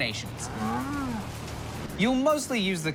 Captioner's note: cow moos